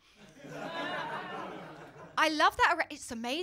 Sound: laughter

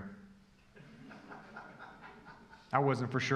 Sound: congregation laughing

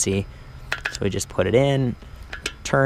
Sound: metal banging

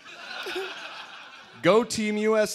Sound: laughter

